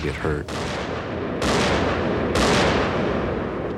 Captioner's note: gunshots